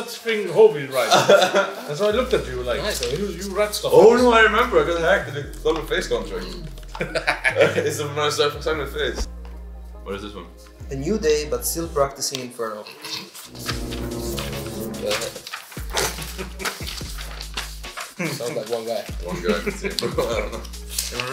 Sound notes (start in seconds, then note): 1.0 people laugh; 6.8 people laugh; 19.3 laughs